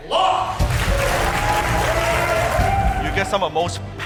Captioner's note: applause and cheering